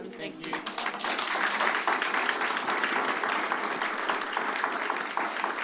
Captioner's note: applause